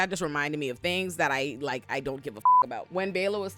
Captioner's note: beep